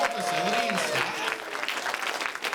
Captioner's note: cheers and applause